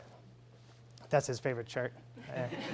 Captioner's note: laughing